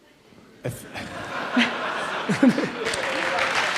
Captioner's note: audience laughs; audience applauds